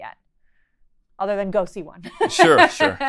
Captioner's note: laughing